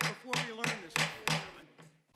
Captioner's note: banging gavel